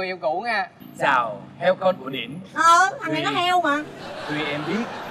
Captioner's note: laughing